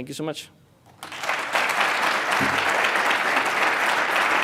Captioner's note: audience applauds